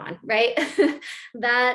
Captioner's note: laughter